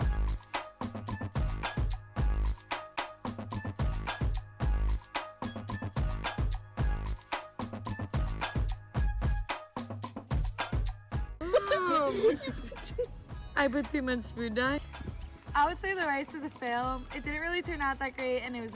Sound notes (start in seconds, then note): 0.1 upbeat music continues; 11.4 group laughing